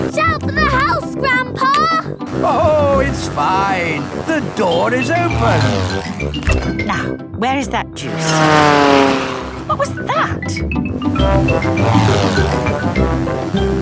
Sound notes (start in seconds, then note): 8.0 plane flies